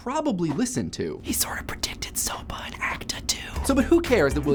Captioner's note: whispering